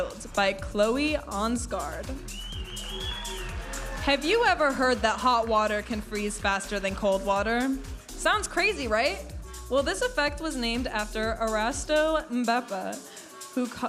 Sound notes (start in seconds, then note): 2.5 audience applauding and cheering